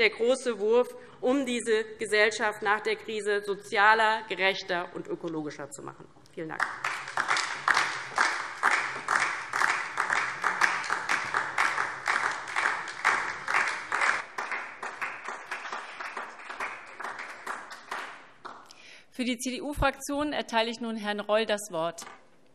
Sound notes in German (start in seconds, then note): 6.7 Beifall DIE LINKE